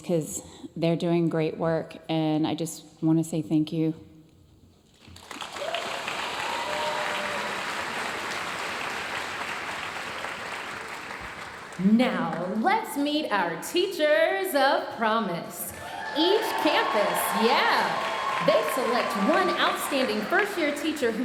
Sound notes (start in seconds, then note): 5.1 audience cheering and applauding